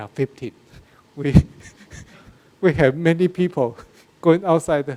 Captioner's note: laughs